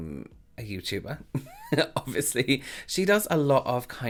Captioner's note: laughing